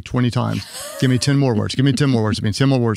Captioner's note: laughs